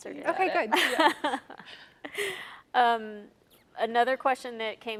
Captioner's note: laughs